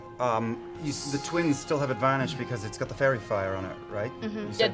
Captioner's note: none